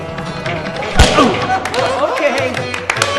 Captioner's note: laughing and clapping